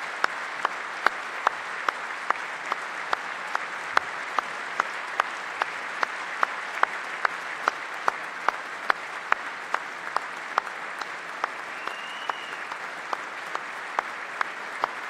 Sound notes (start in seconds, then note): 0.0 applause